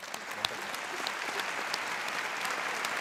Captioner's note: applause